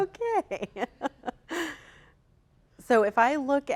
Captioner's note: laughs